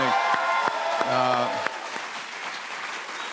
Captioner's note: cheers and applause